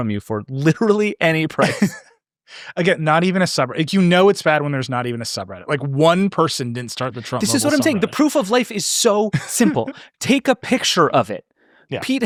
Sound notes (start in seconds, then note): 1.6 laughing